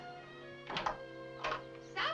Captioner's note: door opens